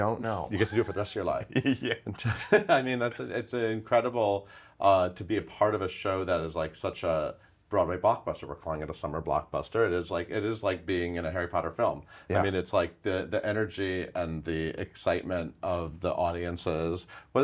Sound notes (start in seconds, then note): 0.5 both laughing